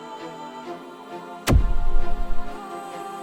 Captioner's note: zap